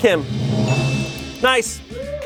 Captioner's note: bell chimes